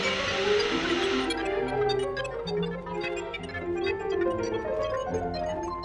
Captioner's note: Kellogg beeping